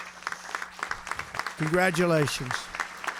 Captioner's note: applause